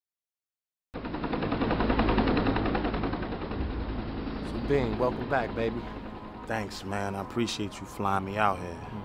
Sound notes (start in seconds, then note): 1.0 helicopter whirring